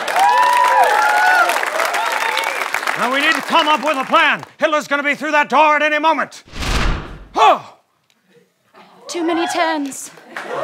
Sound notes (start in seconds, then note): 0.0 cheering; 6.5 poof